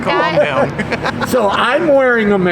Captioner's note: laughing